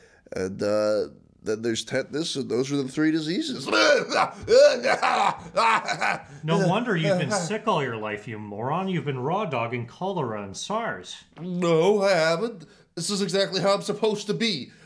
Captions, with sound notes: and uh… then there's tetanus and those are the three diseases. [coughing] No wonder you've been sick all your life, you moron! You've been raw dogging cholera and SARS! No, I haven't. This is exactly how I'm supposed to be.